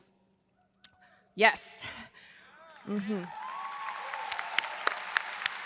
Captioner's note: audience cheers; hand clapping